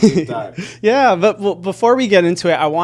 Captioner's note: laughing